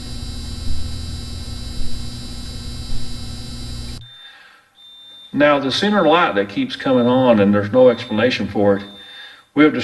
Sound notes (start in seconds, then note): 0.0 buzzing; 4.7 beeping